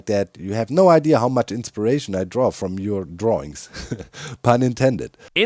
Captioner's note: laughs